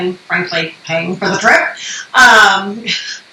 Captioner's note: laughs